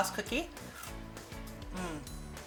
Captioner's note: cookie crunching